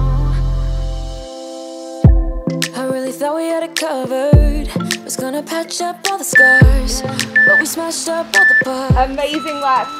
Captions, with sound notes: (beeping) Amazing work.